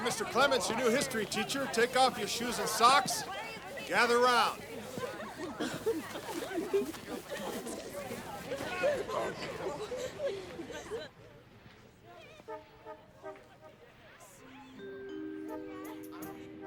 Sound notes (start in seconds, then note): 5.5 students chattering excitedly; 12.6 lighthearted orchestral music